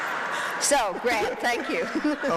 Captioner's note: laughs